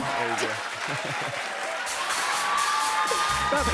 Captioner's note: cheers and applause